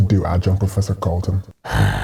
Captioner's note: exhausted, angry sigh